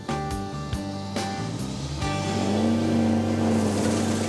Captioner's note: revs engine